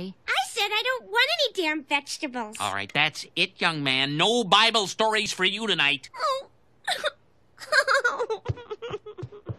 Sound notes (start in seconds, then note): 6.9 crying